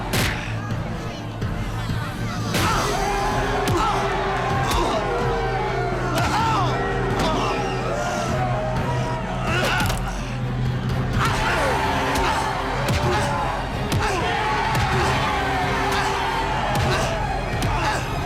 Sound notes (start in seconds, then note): 11.3 Kurt groans